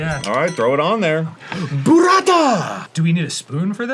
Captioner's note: arin gasps